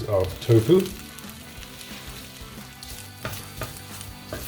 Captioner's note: pan sizzling